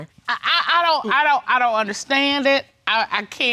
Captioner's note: stammering